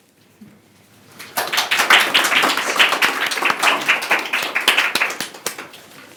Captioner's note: applause